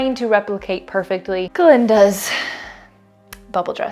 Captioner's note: sigh